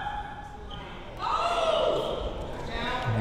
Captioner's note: players yelling